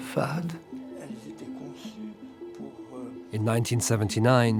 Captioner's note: speaking in French